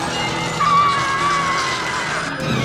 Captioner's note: screaming